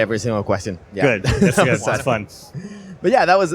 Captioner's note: laughter